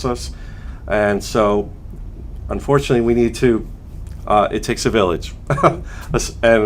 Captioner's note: chuckles